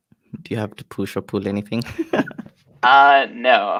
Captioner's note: laughs